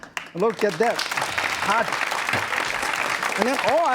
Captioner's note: crowd applauds